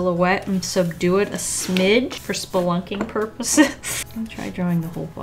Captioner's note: laughs